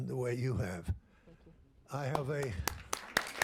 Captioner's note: applause